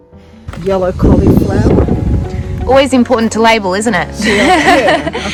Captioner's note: laughs